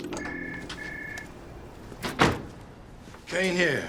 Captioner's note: phone rings